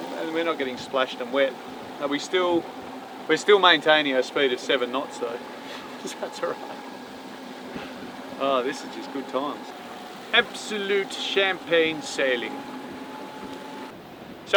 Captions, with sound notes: Um and we are not getting splashed and wet. We are still maintaining the speed at seven knots though. (laughs) This is just good times. Absolute champagne sailing!